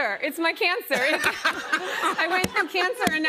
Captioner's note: laughter